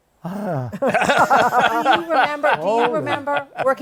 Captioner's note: laughter